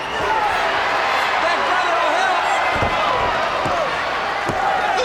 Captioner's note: audience cheers